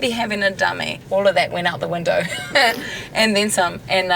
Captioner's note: laughter